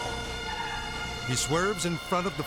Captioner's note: car swerving